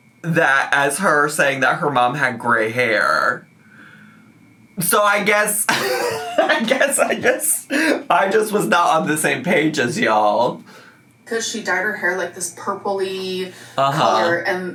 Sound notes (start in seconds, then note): 5.6 laughing